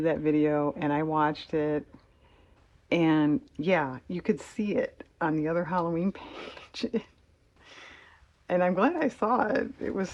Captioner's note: laughs